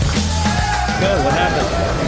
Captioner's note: cheering